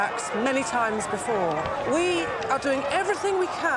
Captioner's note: sirens wailing